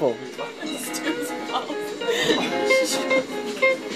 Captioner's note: laughing